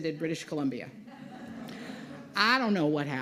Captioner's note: laughter